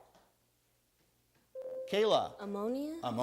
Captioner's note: buzzer sounds